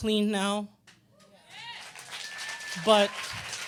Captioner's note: audience clapping and cheering